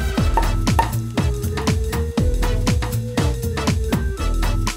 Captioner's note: wine corks popping